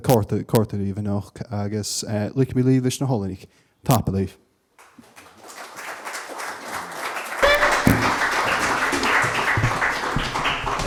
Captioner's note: applause